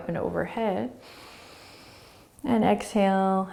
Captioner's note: inhaling